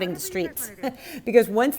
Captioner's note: chuckles